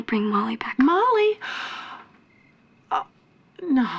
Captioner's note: gasps